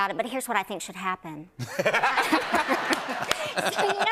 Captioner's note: laughter